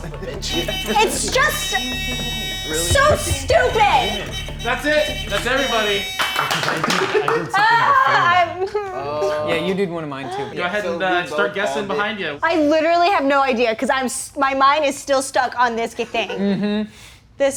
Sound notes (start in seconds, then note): 0.1 hooter buzzing; 8.7 whining